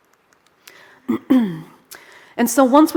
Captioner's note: throat clearing